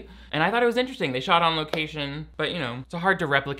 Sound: claps hands once

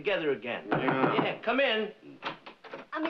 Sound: knocking

